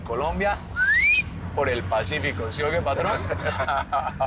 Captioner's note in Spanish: Silbido; Risas